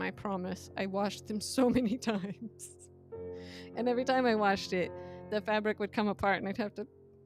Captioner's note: laughs